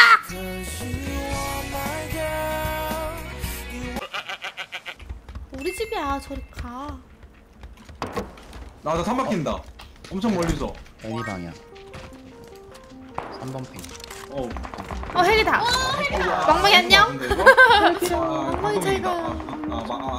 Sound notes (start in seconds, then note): 8.0 bang